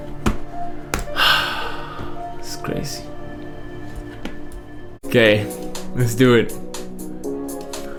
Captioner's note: sighs